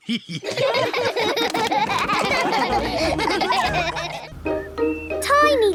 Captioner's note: all laughing